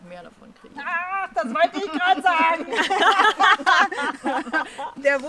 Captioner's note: laughs